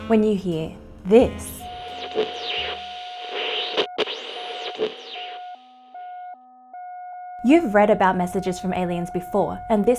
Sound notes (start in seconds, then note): 1.5 radio humming and squawking